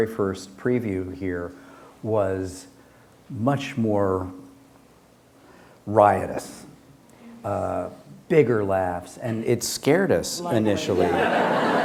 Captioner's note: laughter